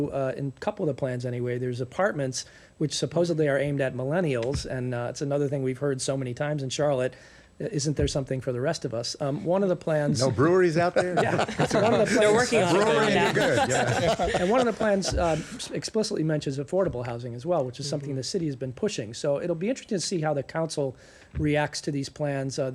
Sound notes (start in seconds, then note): 15.8 laughter